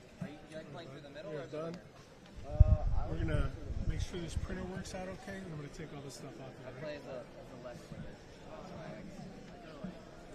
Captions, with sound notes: We are done. We're going to make sure this printer works out OK. I'm going to take all this stuff off here. [BACKGROUND CHATTER]